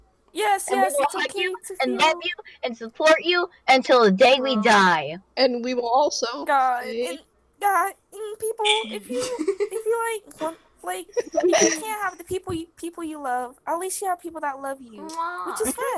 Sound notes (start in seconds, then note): 9.0 giggle; 11.1 smol laughter